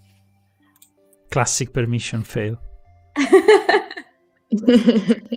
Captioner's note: laughs